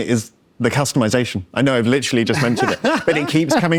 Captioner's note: laughs